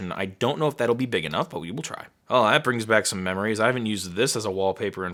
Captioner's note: none